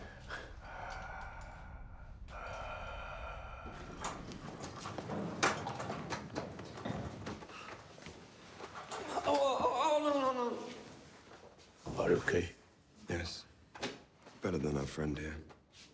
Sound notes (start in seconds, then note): 0.0 Palle breathes deeply; 8.9 groans